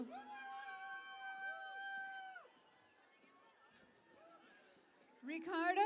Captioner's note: cheering and Applause